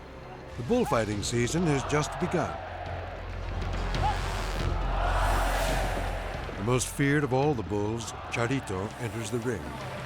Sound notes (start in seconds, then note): 1.4 crowd shouting